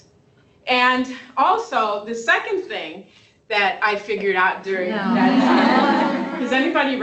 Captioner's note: laughter